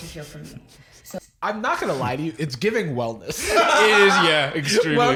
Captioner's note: laughs